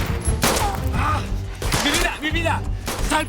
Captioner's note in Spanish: Disparos